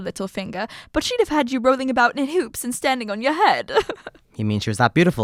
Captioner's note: laughs